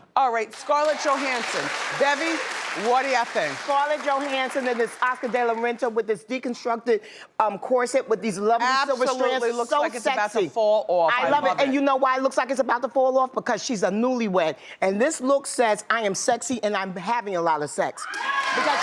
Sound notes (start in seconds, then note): 0.5 audience applauds